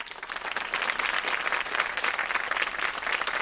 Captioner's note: applause